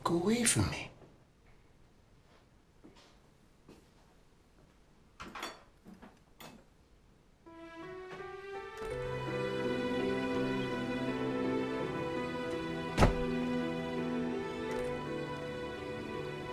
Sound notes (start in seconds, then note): 7.6 somber music; 12.9 door slams